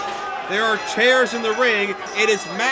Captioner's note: bell rings